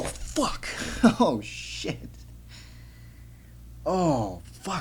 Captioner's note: laughs